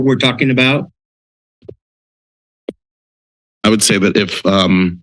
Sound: silence

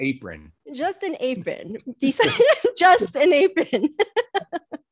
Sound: laughing

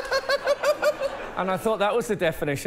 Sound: laughter

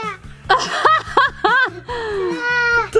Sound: laughing

